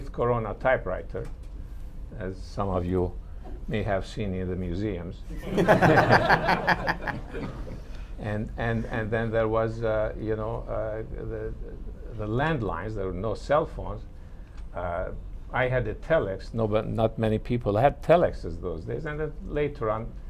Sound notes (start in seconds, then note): 5.4 laughter